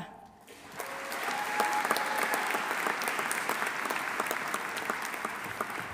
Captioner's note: audience applauding; audience cheering